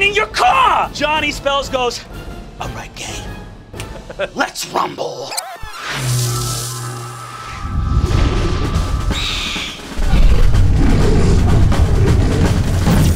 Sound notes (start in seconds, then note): 3.8 snaps fingers; 5.7 sizzling; 8.4 Owlbear screeches; 9.9 growling